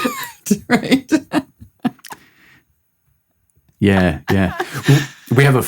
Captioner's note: laughs